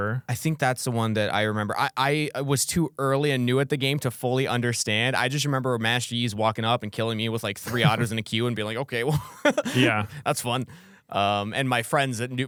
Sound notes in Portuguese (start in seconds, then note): 9.0 risos